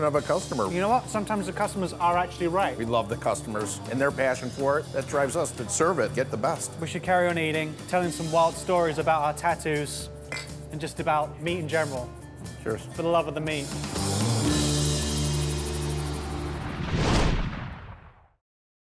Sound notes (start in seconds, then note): 10.2 bottles clink; 14.5 tambourine shaking